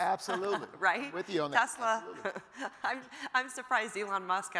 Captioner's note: laughs